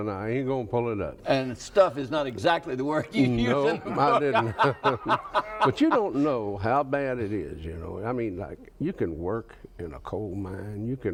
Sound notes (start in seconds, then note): 3.2 laughs; 3.2 both laugh